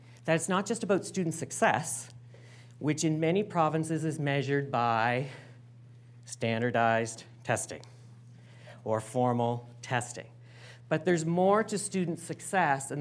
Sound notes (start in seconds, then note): none